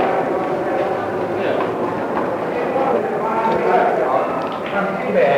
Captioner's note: indiscriminate chatter